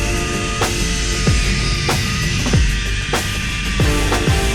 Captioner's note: chill music; zip line screeches